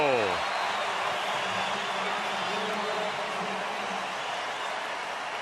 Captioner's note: cheering